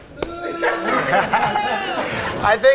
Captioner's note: all laugh